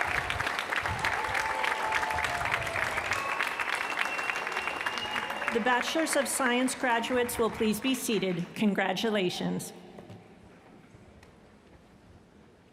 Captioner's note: cheers & applause